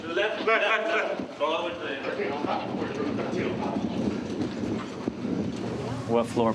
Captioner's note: chatter